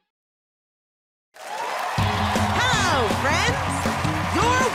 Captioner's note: cheers and applause